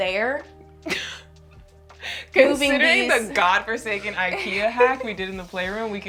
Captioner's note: laughs